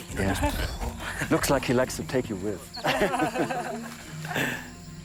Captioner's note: tourists laugh